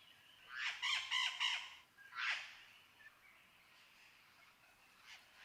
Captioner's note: parrot screeching